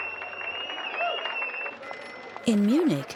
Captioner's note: audience cheering